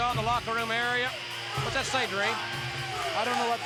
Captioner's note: audience shouting